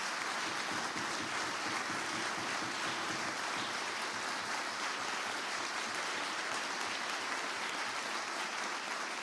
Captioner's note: applause